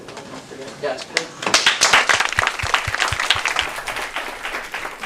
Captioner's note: applause